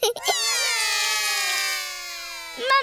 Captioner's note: laughs; all cry